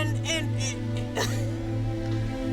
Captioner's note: crying